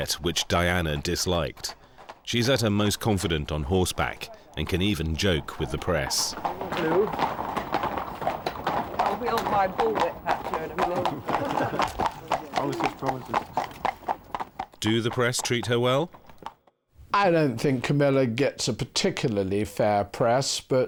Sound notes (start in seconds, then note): 6.6 horses clip-clopping; 10.3 people chuckling; 13.5 horses clip-clopping